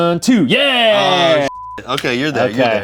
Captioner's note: beep